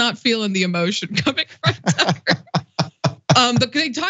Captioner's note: laugh